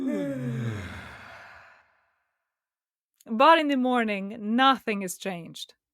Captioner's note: both yawn